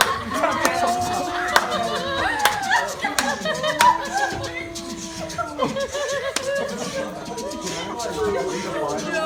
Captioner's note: machine sounds & mooing